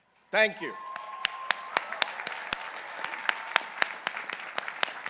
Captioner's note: people applauding